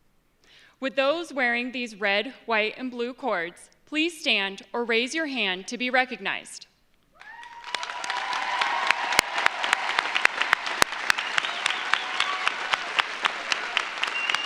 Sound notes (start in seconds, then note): 7.1 audience cheers; 7.2 audience applauds